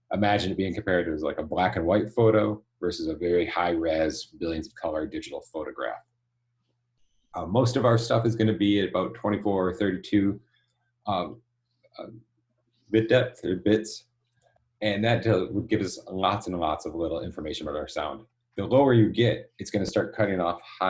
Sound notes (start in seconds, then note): none